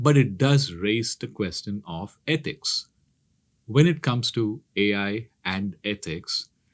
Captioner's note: none